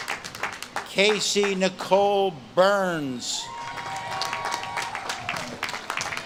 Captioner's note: audience claps and cheers